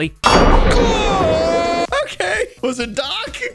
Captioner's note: anvil donk; shouts